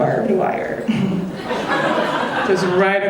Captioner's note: audience laughing